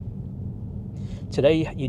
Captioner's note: car humming